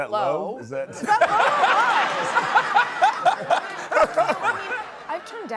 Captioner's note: laughter